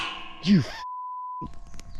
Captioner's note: beep